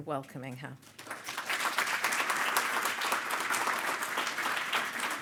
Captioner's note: audience applauding